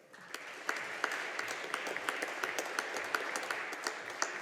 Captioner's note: audience applauding